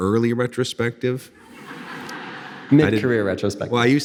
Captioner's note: audience laughing